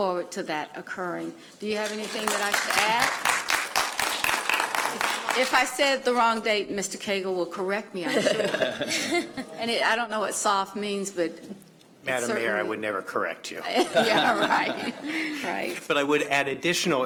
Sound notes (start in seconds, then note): 4.6 applause